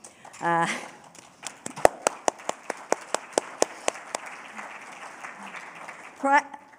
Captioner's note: applause